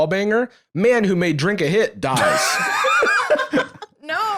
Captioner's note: laugh